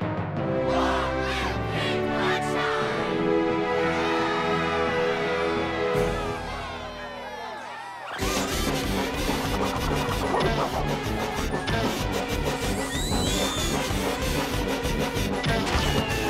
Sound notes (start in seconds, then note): 3.8 cheering; 8.0 joyful circus music